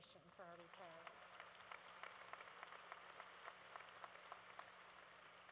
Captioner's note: applause